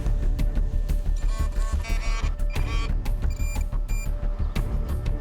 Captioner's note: beeping